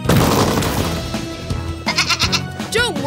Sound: bleating

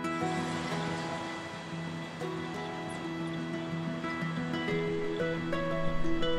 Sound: the sound of traffic and birds is added

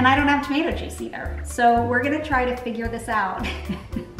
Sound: laughs

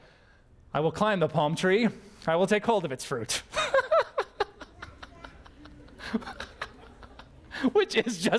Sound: pastor: Laughter

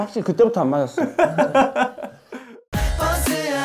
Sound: hahahaha

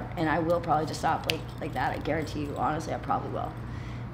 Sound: snapping

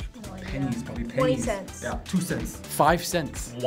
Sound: none

